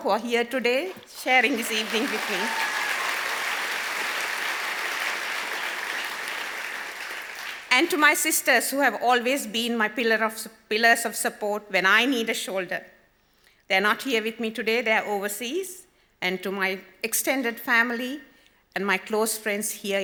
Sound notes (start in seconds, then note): 2.7 audience applause